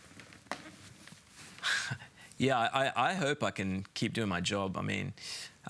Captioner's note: chuckles